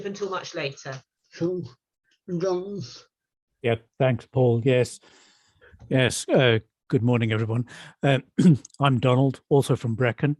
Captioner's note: coughs